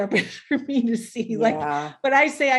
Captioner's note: chuckling